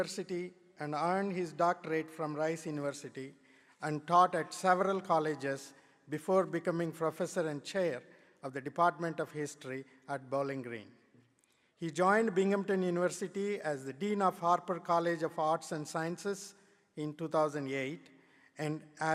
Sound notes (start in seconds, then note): none